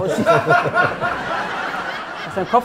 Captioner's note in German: Gelächter